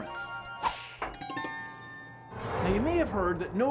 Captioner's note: whoosh!